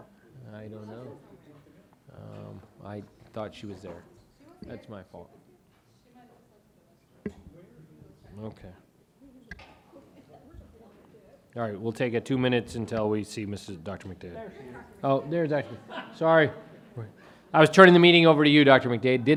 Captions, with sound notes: I don't know. I thought she was there, that's my fault. (attendees chattering) All right, we'll take it two minutes until we see Mrs. Dr. McDade. - There she is. - Oh, there doctor, sorry. I was turning the meeting over to you, Dr. McDade